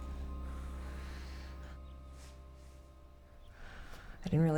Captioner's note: Anne exhales